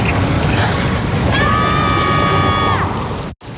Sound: screaming

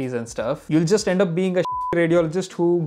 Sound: beep

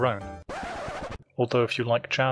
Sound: record scratch

